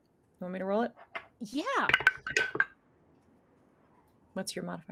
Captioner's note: dice rolling